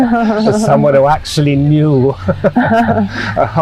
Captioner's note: laughing; laughing